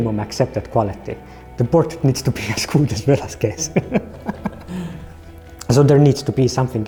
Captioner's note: laughs